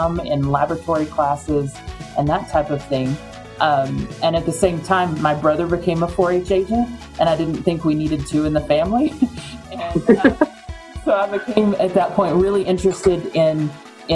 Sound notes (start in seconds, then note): 9.1 laughing